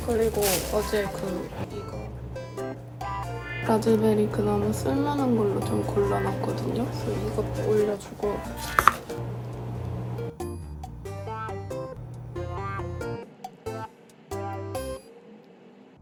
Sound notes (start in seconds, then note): 2.7 washing machine is making noise